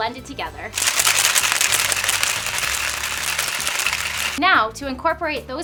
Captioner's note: ice and cocktail shaker clinking